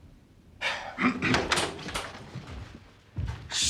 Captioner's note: sighs, clears throat